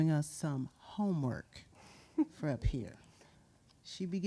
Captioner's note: chuckles